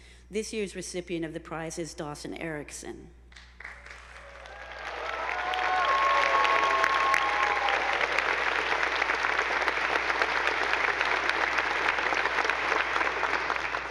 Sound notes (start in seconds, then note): 3.6 attendees applauding; 3.7 audience whooping